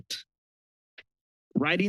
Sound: pause

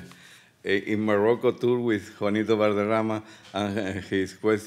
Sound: speaking Spanish

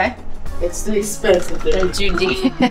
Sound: laughing

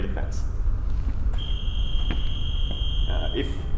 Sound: scoring Buzzer

